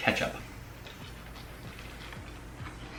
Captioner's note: chewing